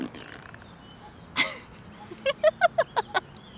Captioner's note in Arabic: يضحك